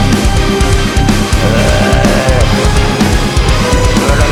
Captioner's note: growling